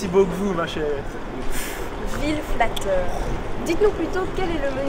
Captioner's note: pff